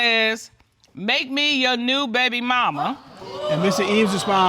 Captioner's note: reading